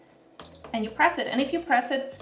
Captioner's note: Instant Pot beeping